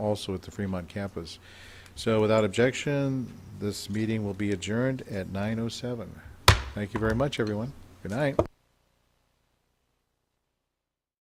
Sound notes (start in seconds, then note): 6.4 gavel smacking